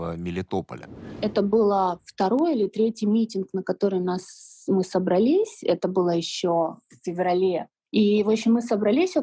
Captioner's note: female voice